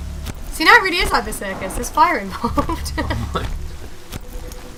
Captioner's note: laughing